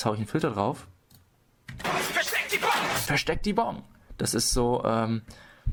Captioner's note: shouting Voice